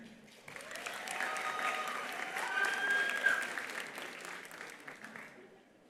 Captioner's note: attendees applauding; attendees cheering